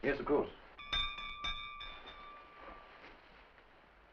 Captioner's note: doorbell rings